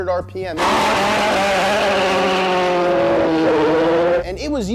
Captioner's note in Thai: คำรามของเครื่องยนต์